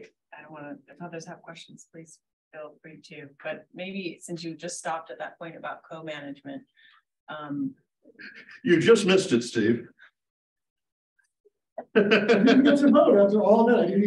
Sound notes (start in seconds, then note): 11.8 laughing